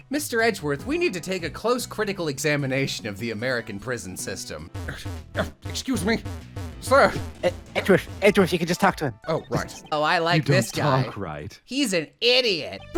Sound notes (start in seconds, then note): 5.3 huff